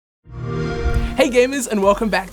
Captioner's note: soft swelling noise